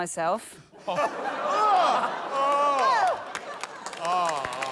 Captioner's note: laughter